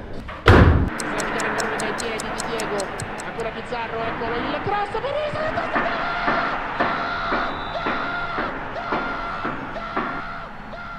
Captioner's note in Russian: звуки ремонта и спротивной программы